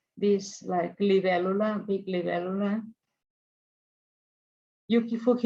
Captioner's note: speaks in foreign language